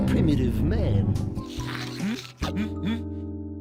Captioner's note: slurps tongue; gulps